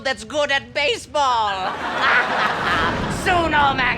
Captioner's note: evil laughter